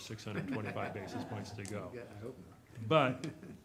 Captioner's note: people laughing